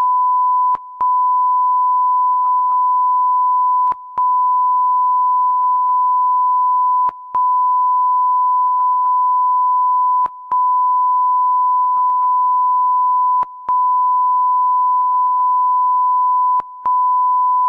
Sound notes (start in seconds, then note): none